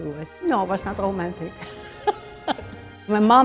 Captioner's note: laughs